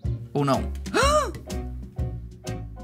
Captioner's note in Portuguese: faz som de surpresa